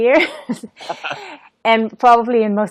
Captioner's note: laughs